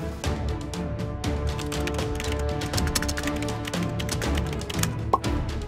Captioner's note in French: Bruit de clavier